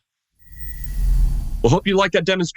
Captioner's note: air whooshes